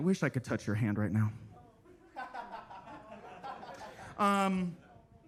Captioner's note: attendees laughing